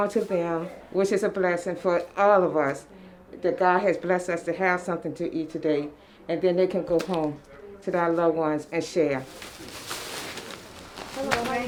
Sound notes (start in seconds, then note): 9.1 bags rustling